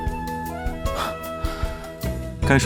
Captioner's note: scoffs